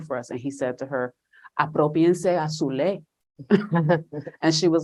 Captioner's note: speaking spanish